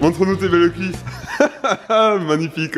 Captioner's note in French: rire